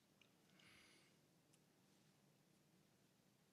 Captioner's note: none